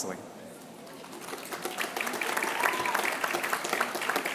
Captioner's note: applause